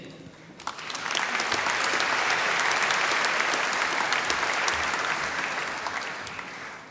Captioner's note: applause